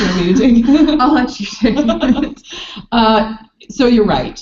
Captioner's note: laughing